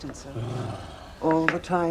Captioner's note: Henry sighs